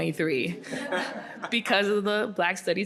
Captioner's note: audience laughing